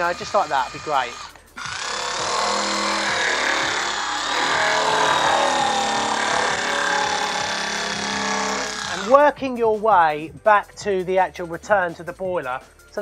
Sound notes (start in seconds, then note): 2.1 drill whirring